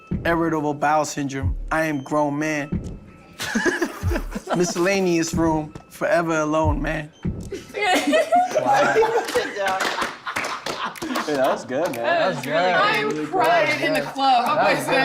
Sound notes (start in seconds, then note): 3.4 laughing; 7.5 laughing